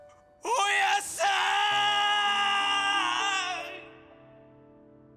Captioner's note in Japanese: 叫び声